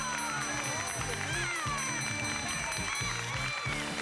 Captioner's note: applause